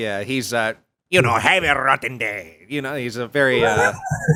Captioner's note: starts laughing